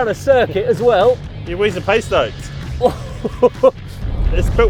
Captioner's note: laughs